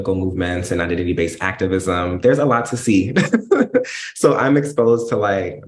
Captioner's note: laughs